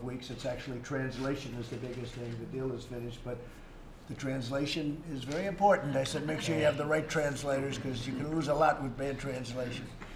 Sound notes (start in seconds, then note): 6.0 laughter